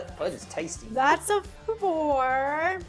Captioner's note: laughing